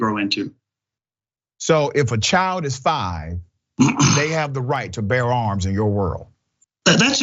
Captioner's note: cough